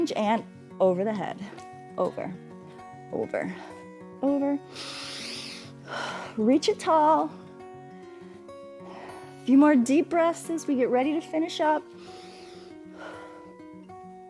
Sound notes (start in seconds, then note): 4.6 inhales and exhales; 11.9 inhales and exhales